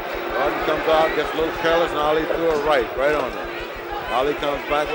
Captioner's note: bell sounds